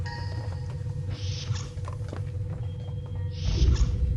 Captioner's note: doors open and close